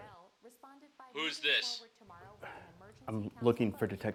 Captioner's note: on phone